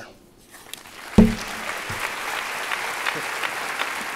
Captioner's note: applause